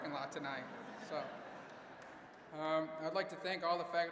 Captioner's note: audience laughing